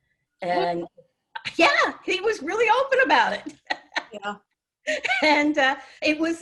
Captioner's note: laughs